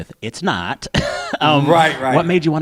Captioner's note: laughter